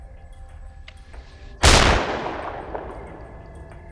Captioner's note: gunshot